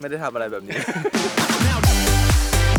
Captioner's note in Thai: เฟิร์สหัวเราะ